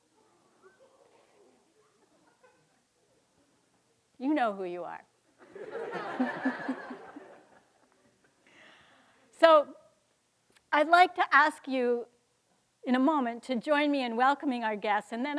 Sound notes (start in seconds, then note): 0.4 students giggling; 5.4 students laughing